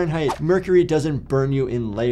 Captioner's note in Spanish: transición silbante